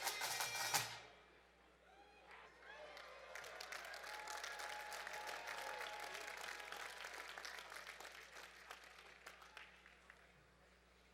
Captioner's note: applause